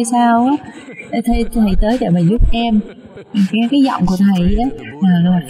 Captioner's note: laughter